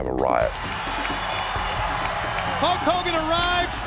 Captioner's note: audience cheers